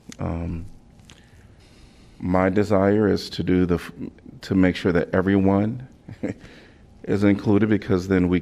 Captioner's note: laughter